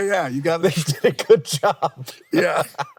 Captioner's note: laughs